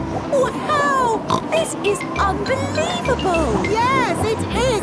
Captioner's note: snorts